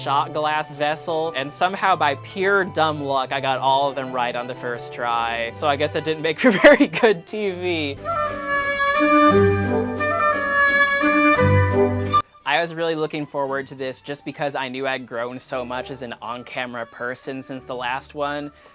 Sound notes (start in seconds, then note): 6.4 laughs